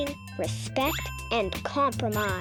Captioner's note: check mark rings